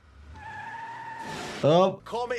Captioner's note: tires squeal